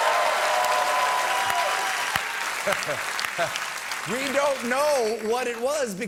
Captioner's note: applause